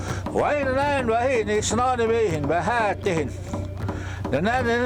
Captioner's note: speaking in foreign language